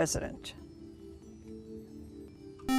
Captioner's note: buzzer